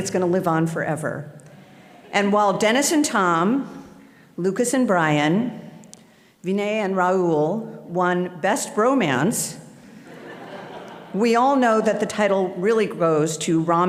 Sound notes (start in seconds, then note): 10.0 audience laughing